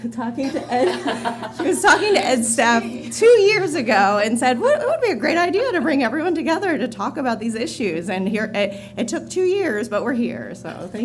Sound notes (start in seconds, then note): 2.3 laughter